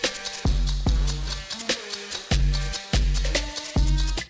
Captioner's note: wincing